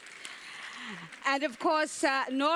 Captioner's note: audience applauds